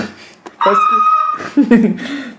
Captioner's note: screeching again